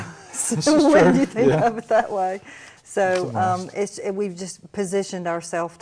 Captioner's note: laughter